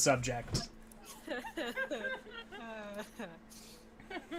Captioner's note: still laughing